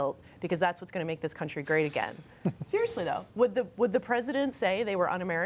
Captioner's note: laughter